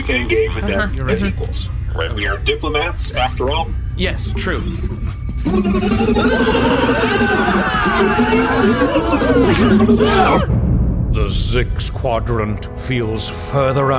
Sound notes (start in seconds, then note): 8.3 alien monstrous sounds; 10.3 intro music